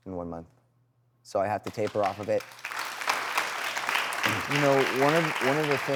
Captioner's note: applause